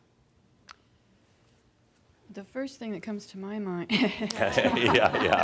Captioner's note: laughter